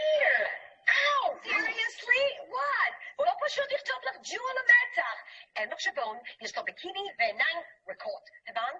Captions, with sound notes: - Here. - Seriously, what? (speaking in a foreign language)